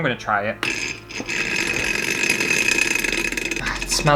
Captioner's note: loud Motor Sound